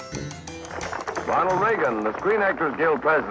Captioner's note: voiceover